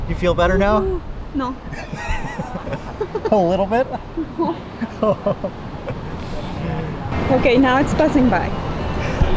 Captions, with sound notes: You feel better now? - No. (both chuckling) - A little bit? - Okay, now it's passing by.